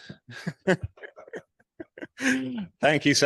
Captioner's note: everyone laughs